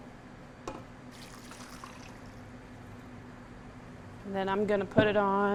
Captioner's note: water sloshing